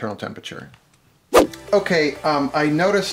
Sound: swooshing

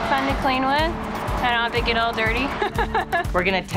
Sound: laughs

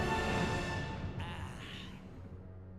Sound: sighs

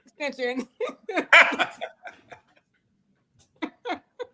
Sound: laughs

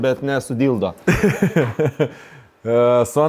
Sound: chuckles

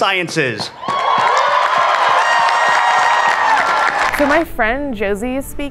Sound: everyone cheers

